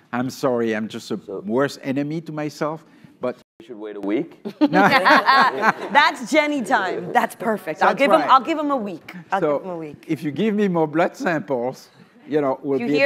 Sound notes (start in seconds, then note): 4.6 laughs